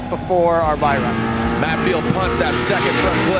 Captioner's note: engine revving